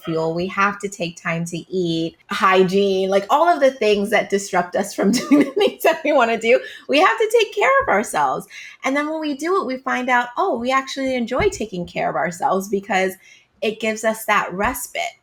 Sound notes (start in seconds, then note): 3.2 laughing